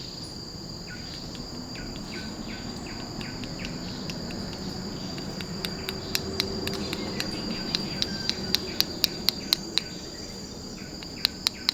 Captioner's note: rhythmic chirping of a bird; crisp clapping of rubber seed pods